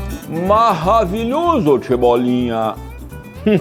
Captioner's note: french accent